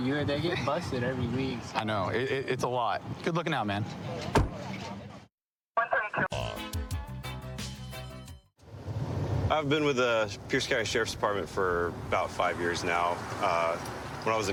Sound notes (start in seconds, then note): 4.2 car door closing